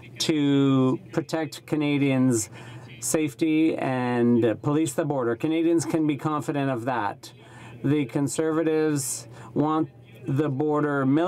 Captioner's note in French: voix de l'interprte